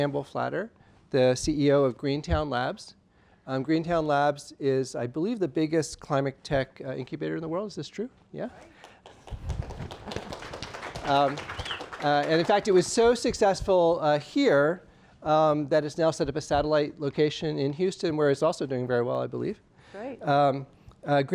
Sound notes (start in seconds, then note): 8.7 applause